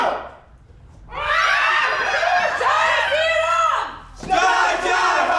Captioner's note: the Players cheer and scream; speaking in a foreign language